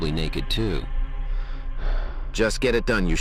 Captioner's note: long sigh